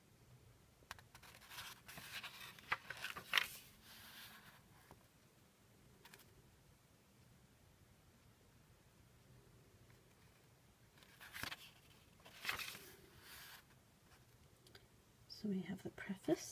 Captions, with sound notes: [pages turning] So we have the preface.